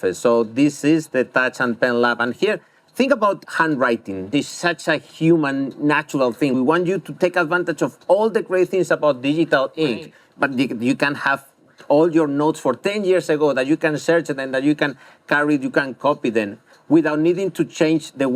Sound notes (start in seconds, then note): none